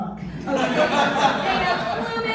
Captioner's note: laughter